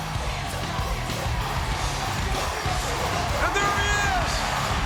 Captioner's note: crowd cheering